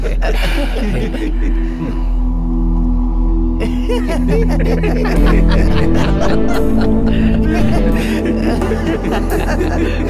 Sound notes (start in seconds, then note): 5.1 continue laughing